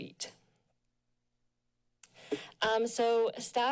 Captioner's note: pause